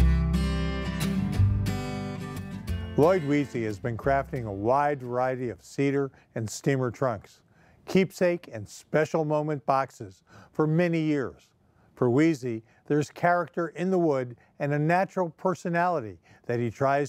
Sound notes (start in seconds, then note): 0.0 calm guitar music; 2.8 voiceover